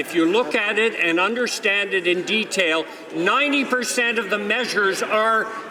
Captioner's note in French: voix de l'interprte